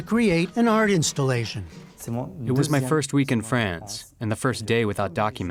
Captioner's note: through translator